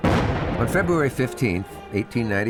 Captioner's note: cannon firing